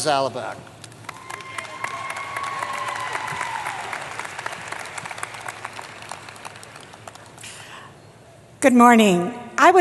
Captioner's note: applause